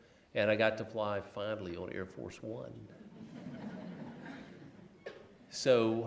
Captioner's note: laughs